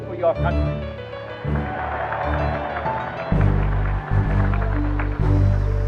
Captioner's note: cheering and applause